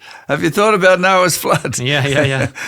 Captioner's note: both laugh